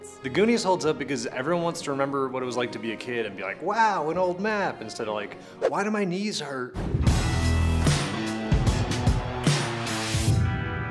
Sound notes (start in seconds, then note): 5.6 air whooshes; 6.8 dramatic instrumental music